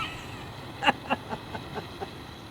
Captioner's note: laughs